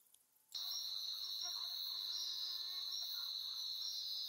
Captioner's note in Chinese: 蚊子的聲音